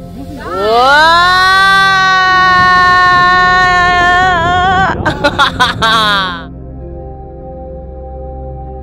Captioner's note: laugh